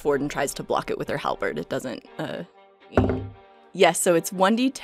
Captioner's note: heavy dice thunks